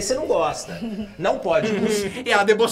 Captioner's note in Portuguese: Inês ri